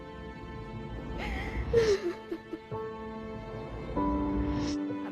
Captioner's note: woman sobbing